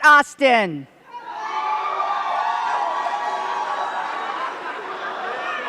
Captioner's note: cheers and claps